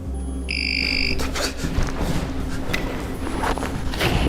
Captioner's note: doll rings